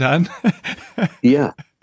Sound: laughing

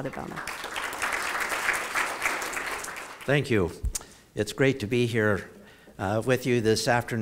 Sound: applause

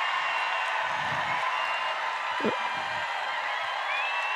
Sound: cheers and applause

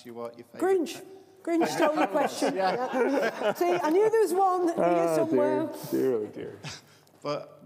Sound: laughter

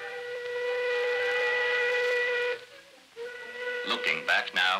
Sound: train whistle

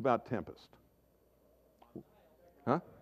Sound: audience chatter

